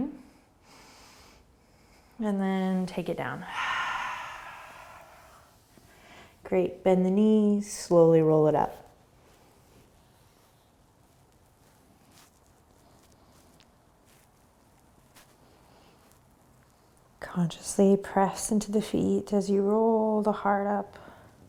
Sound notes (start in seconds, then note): 0.2 breathing; 3.3 exhaling